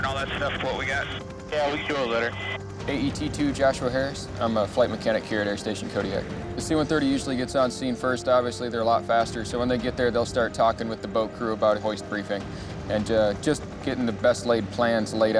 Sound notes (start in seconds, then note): 1.8 person Over Radio